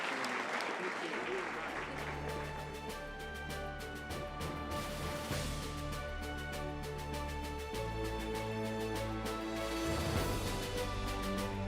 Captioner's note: applause